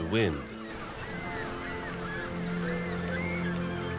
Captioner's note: birds cawing